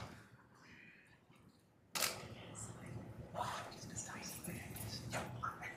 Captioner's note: camera clicking